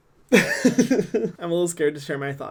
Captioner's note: laughs